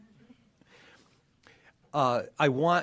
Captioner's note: laughter